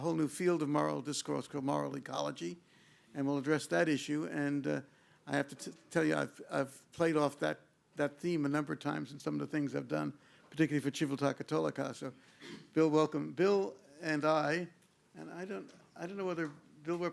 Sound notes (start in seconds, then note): 11.2 speaks in foreign language